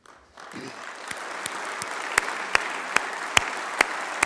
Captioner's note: applause